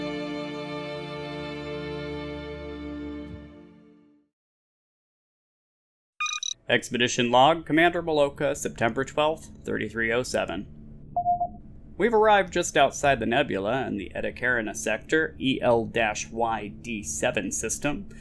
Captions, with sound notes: [Computer beep] Expedition log, Commander Melloca, September 12th, 3307. We've arrived just outside the nebula in the Eta Carina Sector EL-Y D7 system,